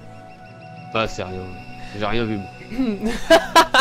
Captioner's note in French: rires